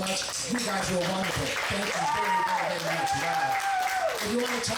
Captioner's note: audience clapping and cheering